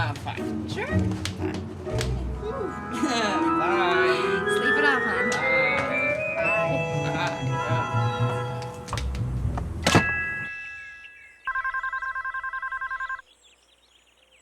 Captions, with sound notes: - No, I'm fine. - Sure? - Fine. - Okay. - Ooh. (laughs) Bye. - Sleep it off, hon. - Bye. - Bye. - Bye. (door bangs) (birds chirping) (phone ringing)